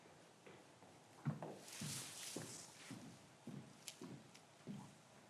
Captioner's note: footsteps approaching